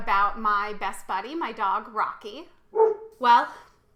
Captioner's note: dog barking